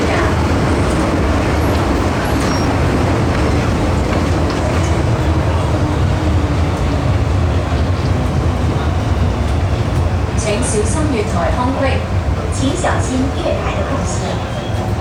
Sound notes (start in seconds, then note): 9.9 Cantonese